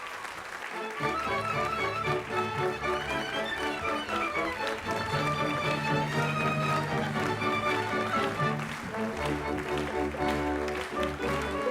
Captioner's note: applause